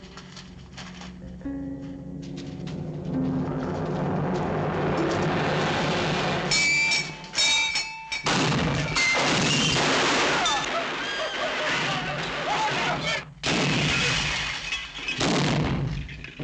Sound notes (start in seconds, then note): 2.7 ominous music intensifies; 6.5 bell dinging; 8.2 guns firing